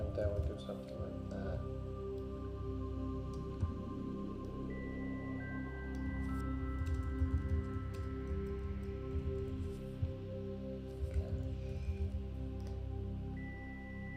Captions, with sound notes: And then there's something like that. (gentle music) (keyboard clicking) Cash.